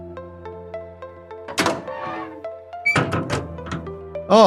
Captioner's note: door opens and closes